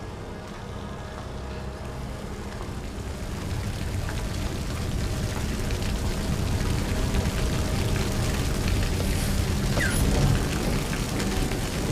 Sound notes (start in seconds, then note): 4.0 fire burning